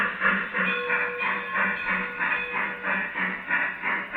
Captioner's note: bell clangs